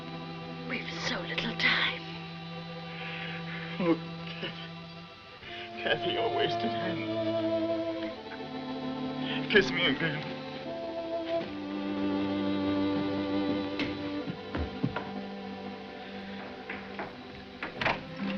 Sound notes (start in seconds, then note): 12.8 footsteps rushing